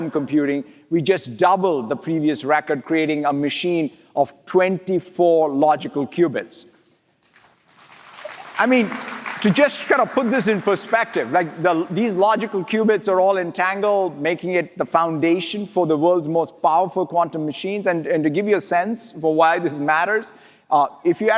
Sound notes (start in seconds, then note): 11.4 applause